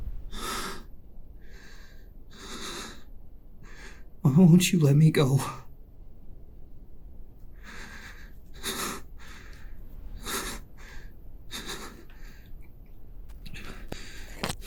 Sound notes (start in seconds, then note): 0.0 entity loudly breathes; 0.2 Pete panting; 9.9 Pete panting